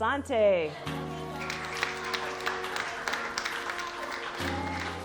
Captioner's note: applause